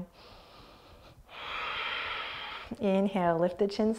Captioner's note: inhaling and exhaling